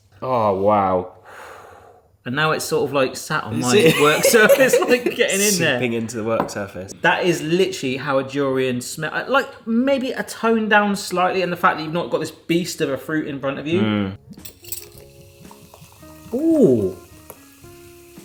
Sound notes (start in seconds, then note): 14.4 soda fizzing